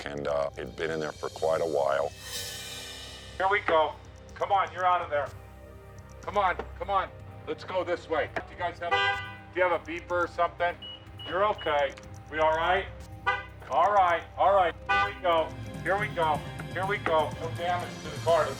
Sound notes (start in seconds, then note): 8.7 horn honking; 11.0 car beeping; 13.1 horn honking